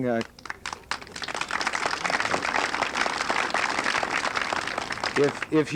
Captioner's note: applause